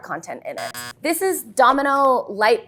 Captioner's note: buzzer sounds